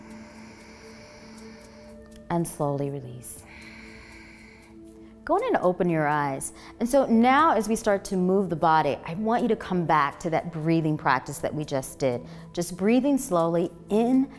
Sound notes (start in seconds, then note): 0.0 inhaling; 3.3 exhaling